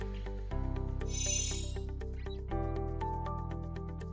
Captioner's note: chiming